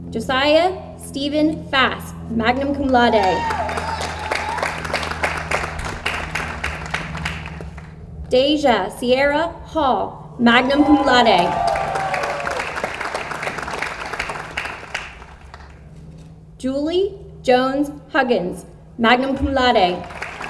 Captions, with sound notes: Josiah Stephen Fast, magna cum laude. (audience applauds) Deja Sierra Hall, magna cum laude. (audience applauds) Julie Jones Huggins, magna cum laude.